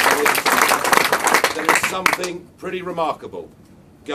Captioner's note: crowd